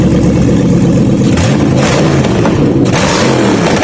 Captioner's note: glorious V8 open header noises